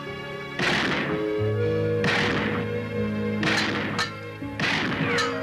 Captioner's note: gunshots